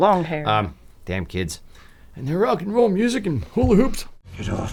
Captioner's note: in old man voice